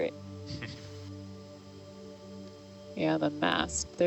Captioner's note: chuckles